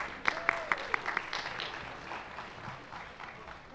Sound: applause

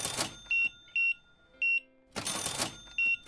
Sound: beeping

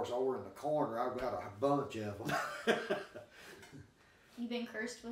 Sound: laughing

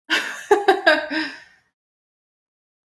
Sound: laughs

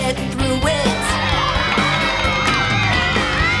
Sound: cheering, music playing

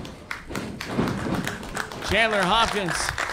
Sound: clapping

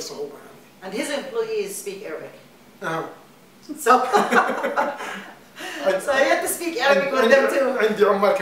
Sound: laughter

